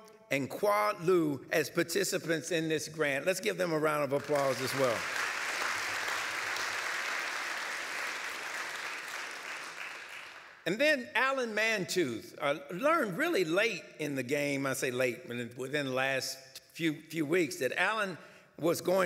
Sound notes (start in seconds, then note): 4.1 applause